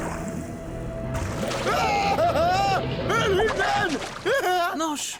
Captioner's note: screaming